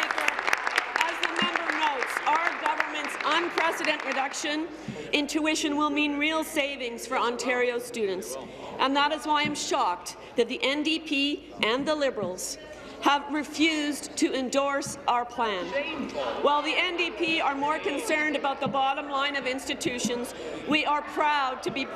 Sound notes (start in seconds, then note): 0.0 applause